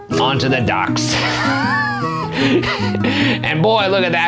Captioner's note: laughs